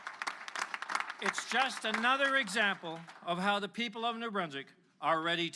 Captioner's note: applause